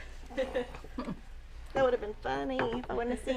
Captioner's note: laughing